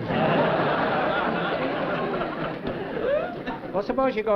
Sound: laughter

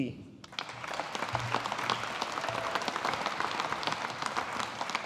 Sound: audience applauding

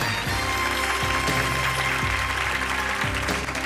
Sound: applauding

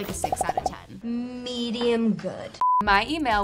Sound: beep

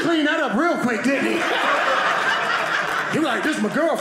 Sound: audience laughing

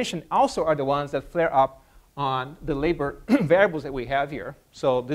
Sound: cough

